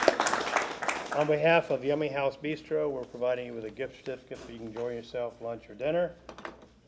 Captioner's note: applause